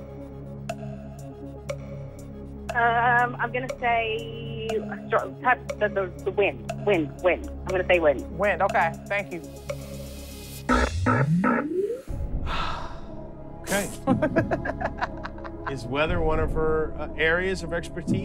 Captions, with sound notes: Um, I'm gonna say... the wind. Wind, wind. I'm gonna say wind. Wind. Okay, thank you. [ Buzzer ] [ Sighs ] [ Laughs ] Is weather one of her areas of expertise?